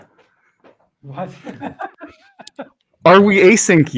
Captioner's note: laughs